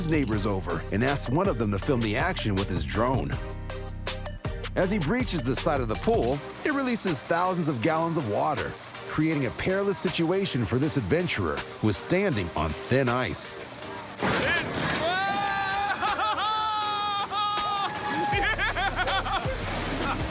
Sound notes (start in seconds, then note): 14.2 crash; 14.8 laughter and cheers